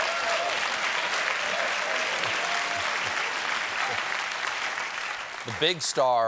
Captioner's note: applause